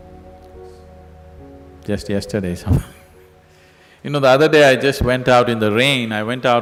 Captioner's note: laughs